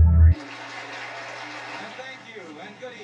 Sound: tv playing in the background

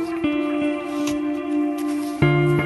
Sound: none

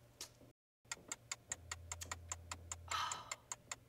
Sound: clock ticks

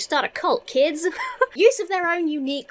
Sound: laughs

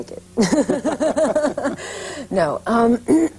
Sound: laughs

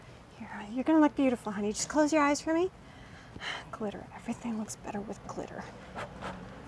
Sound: none

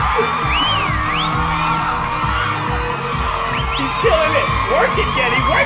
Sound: cheers and applause

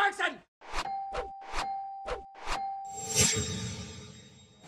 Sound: bell dings

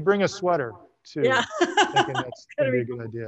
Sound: laughs

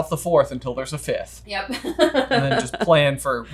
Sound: giggles

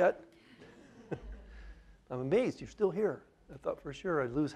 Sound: laughter

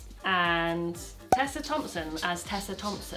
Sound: cork pops

